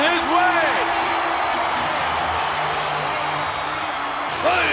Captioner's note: audience cheers